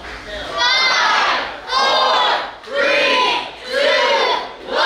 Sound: crowd

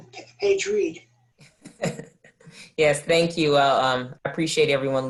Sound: laughter

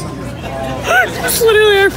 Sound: giggles

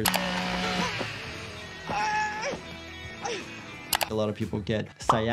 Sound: chainsaw buzzing

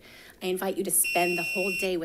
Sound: bell chimes

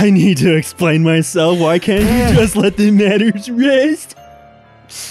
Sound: chortles

